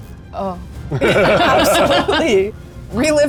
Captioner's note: group laughing